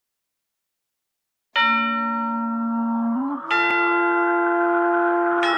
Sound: spooky chime plays

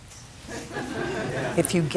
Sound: laughter

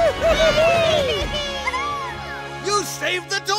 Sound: all cheering

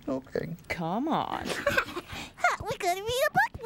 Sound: Leona giggles

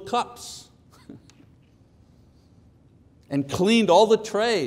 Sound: chuckles

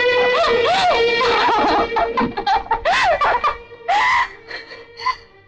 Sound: laughs

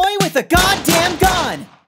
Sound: gunshots

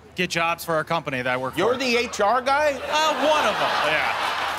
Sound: laughter

